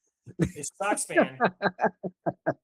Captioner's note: laughing